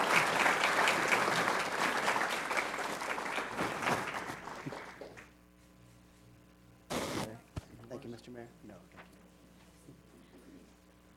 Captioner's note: applause